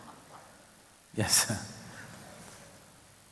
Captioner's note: laughs